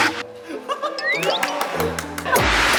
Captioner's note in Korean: 박수 짝짝짝